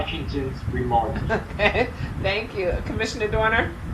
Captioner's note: laughing